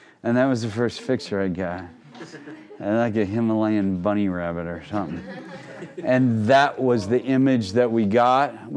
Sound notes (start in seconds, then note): 5.0 crowd laughing